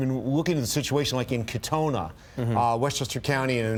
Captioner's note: laughter